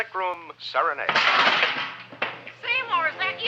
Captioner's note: Seymour crashing; upbeat music